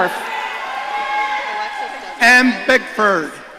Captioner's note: audience cheering